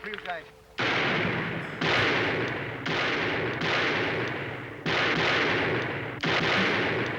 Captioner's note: gunshots